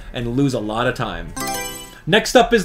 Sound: Mario Selection Sound

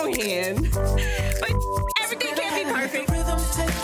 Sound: beep

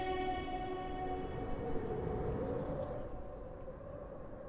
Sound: wind whistling

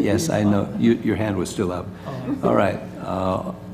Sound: laugh

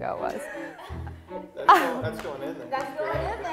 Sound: laughs

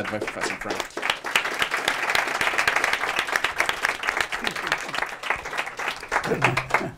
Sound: applause

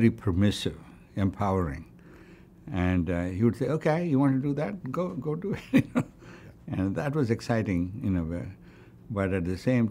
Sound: laughs

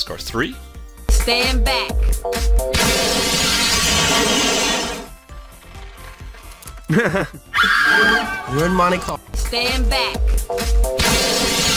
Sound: laugh; scream

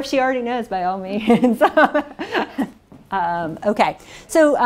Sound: laughs

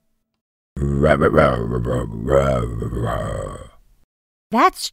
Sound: Kepla grunts

